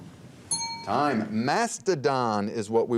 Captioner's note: bell rings